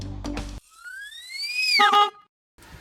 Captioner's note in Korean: 전동 휠체어 소리; 경적 소리